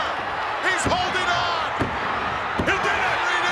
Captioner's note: hand pounding